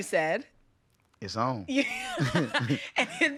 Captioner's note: laughing